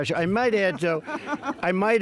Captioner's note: laughter